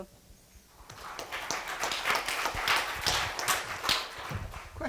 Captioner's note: applause